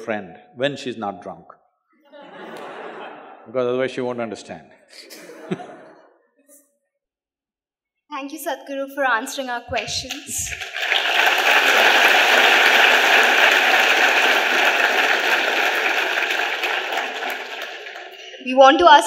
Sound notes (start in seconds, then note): 2.0 laughter; 16.0 applause